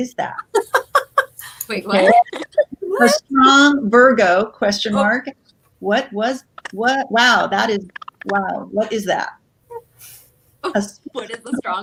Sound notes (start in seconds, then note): 0.2 laughs